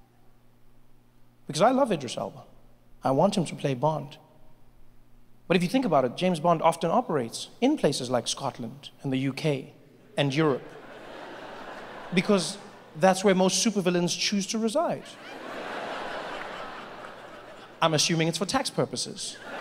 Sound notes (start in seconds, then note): 10.4 audience laughing; 14.9 audience laughing